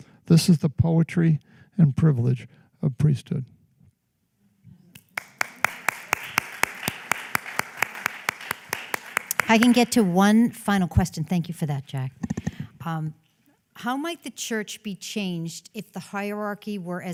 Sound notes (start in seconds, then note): 5.0 applause